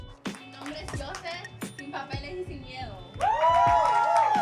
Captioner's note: bright upbeat music; speaking in foreign language; audience applauding